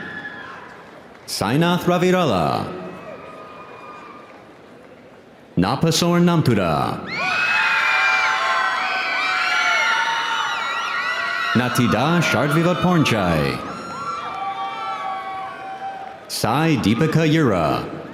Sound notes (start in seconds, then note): 1.8 audience cheering; 3.0 audience applauding